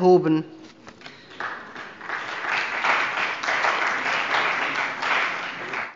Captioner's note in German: Beifall bei der CDU und dem BÜNDNIS 90/DIE GRÜNEN